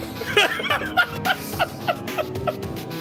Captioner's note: laughs